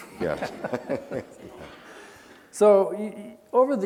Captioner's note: laughing